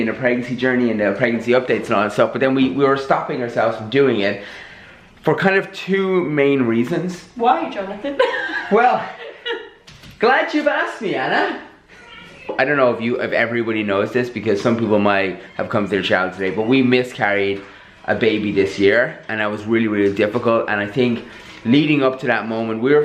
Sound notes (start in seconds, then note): 8.0 she Laughs